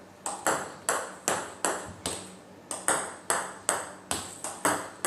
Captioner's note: ball ping pong hitting continues